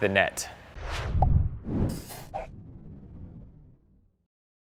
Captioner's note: whooshing logo